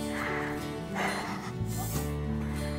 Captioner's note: Exhales